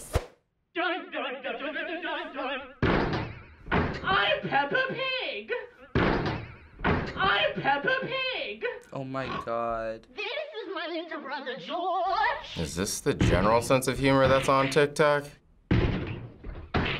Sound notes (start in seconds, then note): 0.1 distorted singing; 3.4 distorted voice; 10.2 distorted voice